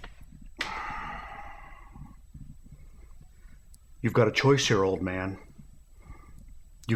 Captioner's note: sighs